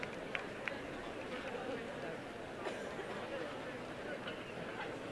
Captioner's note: applause